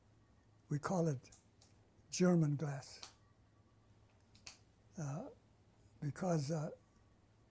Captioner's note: pauses for 3 seconds